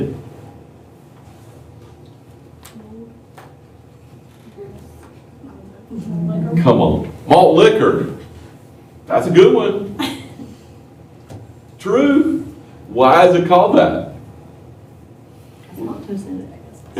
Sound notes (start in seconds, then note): 9.9 laughter